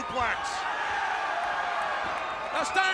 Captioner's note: crowd cheering